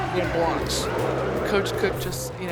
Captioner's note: crowd cheering